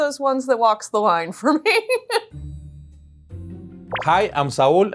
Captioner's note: laughs